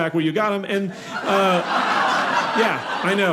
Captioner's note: audience laughing